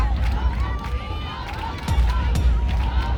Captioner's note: cheering